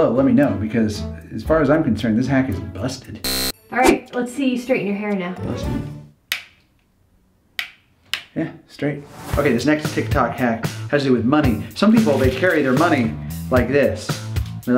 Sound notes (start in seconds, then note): 3.2 buzzing; 7.6 snapping